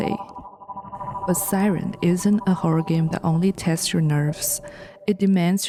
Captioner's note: siren